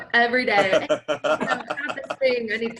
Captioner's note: laugh